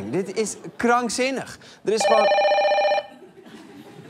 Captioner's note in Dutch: er gaat een telefoon over